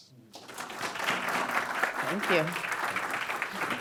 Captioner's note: audience clapping